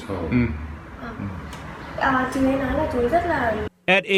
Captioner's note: translates in Vietnamese